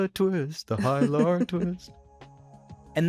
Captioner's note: chuckles; ambient instrumental music plays